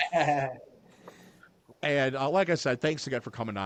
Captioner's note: laughing